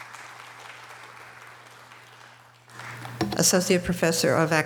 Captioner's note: audience applause